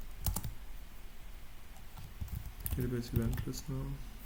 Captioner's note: typing noise